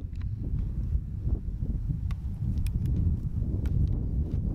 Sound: wind blowing

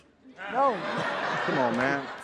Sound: audience laughs

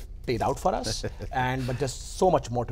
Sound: chuckles

